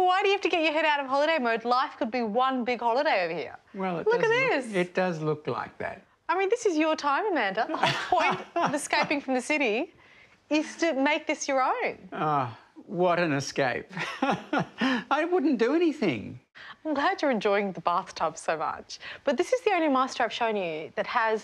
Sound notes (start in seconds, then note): 13.9 chuckles